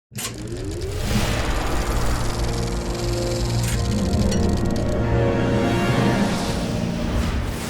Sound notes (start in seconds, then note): 1.1 electricity surging; 1.1 film reel whirring; 2.5 accomplished music; 2.5 air whooshing